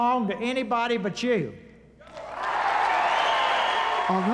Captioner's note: cheering